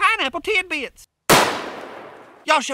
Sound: gun fires

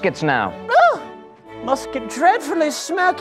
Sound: high trill of surprise

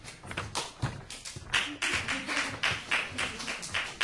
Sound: audience applauding

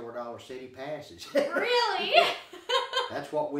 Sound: laughing

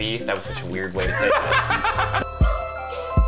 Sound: laughing

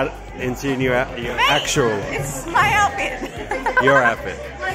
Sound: laughs

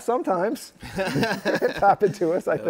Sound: laughter

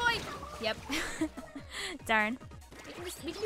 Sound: chuckles

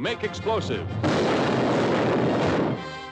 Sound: explosions

